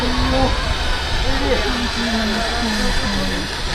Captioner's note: none